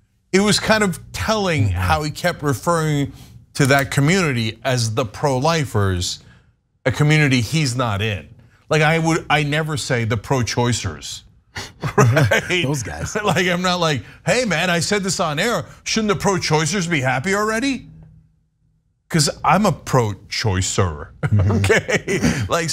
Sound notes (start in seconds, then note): 11.6 laugh; 21.2 laugh